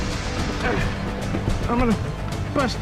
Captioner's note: breathing heavily